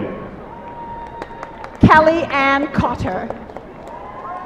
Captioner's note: applause